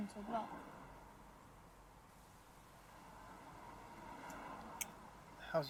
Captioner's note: street noise